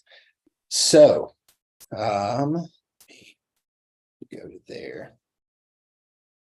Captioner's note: faintly speaking